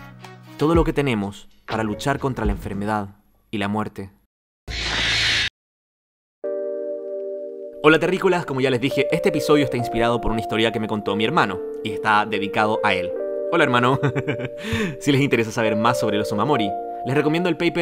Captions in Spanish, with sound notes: todo lo que tenemos para luchar contra la enfermedad y la muerte..." Hola terrícolas, como ya les dije este episodio está inspirado por una historia que me contó mi hermano, y está dedicado a él. Hola hermano! (risas) Si les interesa saber más sobre los omamori, les recomiendo el paper